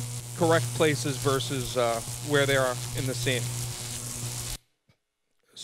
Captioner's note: electricity Buzzing